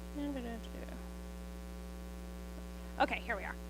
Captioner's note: humming a tune